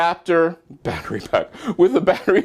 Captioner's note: laugh